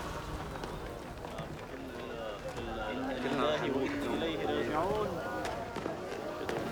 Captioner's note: people chattering in foreign language